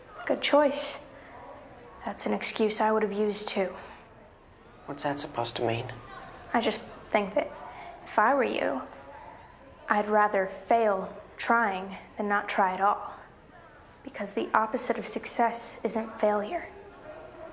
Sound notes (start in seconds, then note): none